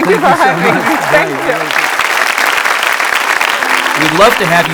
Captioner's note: audience clapping